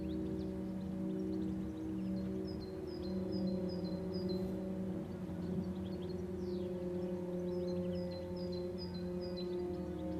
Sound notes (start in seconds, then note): 1.7 birds chirping; 1.7 gentle melodic music